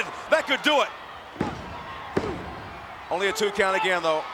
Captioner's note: mat pounding